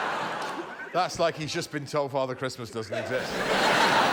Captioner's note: laughter